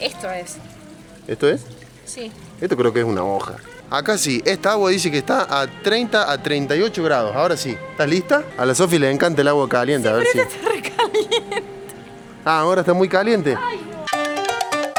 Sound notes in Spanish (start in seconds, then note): 10.2 risas